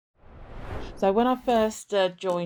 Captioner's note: screen swooshing